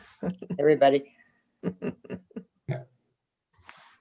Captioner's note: chuckles